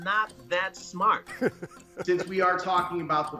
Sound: laughing

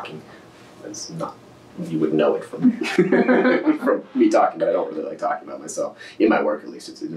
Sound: laughter

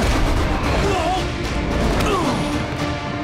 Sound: grunting

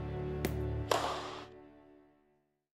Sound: tennis ball bouncing; tennis racket thwacking

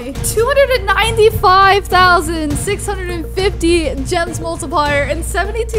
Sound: none

